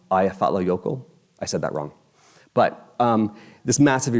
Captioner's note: none